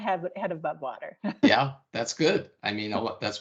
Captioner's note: chuckling